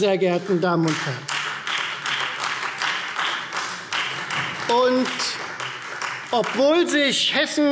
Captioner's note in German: Beifall Freie Demokraten